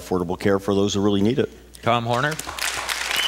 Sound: applause, cheers

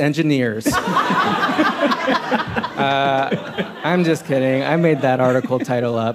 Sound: laughter

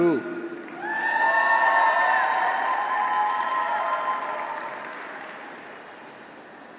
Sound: audience applauds; graduates cheer

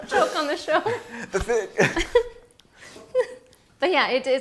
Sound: fake choking

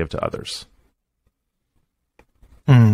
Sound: silence

